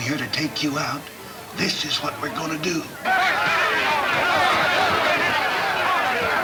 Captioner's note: men yelling simultaneously